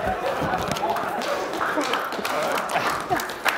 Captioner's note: applause